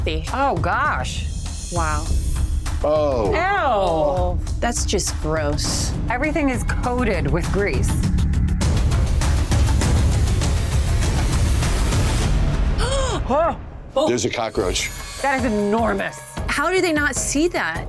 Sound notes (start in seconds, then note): 12.8 gasps